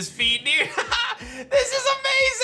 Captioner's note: laughs